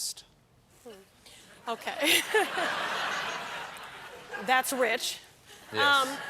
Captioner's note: laughter